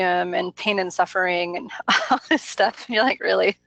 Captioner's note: laughs